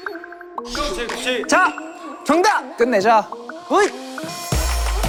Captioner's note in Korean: 확신하는 목소리로